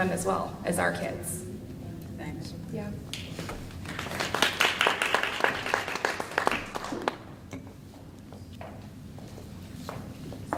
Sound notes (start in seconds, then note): 3.8 applause